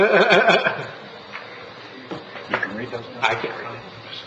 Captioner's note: laughing